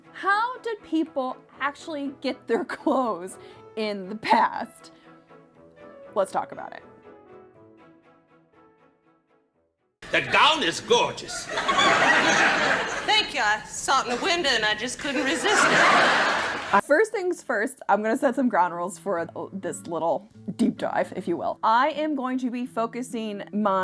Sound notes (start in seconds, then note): 5.8 gentle piano music; 11.6 audience laughing; 15.7 audience laughing